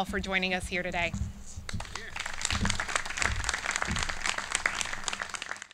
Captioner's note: clapping